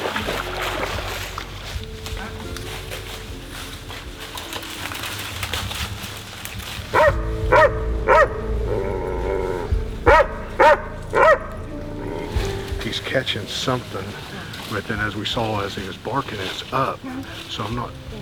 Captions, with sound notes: (dry leaves rustling) (dog barking and growling) - He's catching something within- as we saw, as he was barking, it was up, so I'm not-